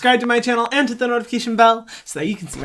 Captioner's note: bell ringing